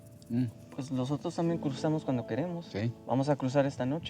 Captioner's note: speaking spanish